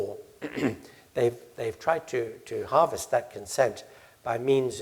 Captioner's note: cough